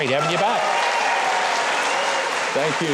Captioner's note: audience applauds